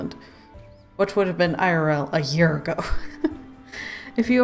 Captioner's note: laughs